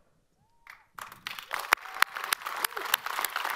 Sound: all applaud

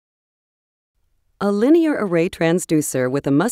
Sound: voiceover

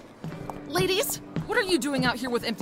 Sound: footsteps

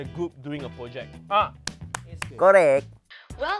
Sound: claps in approval

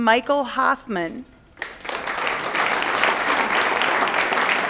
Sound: audience applauds

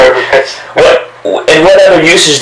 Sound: laughs

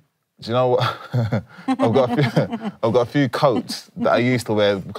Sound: chuckles

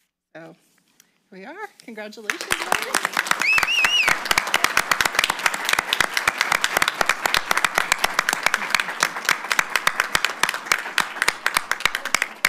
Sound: applause

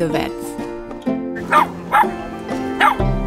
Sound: little dog barking

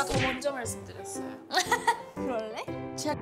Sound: haha

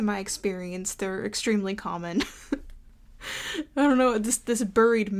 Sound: chuckles

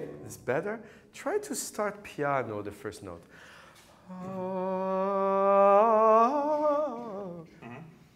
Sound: foreign language; singing melody

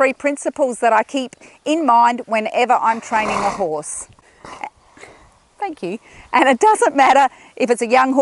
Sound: horse snorts

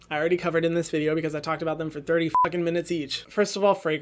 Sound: beep

